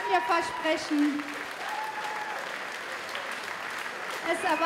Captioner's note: applause